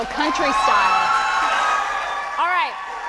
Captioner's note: audience cheering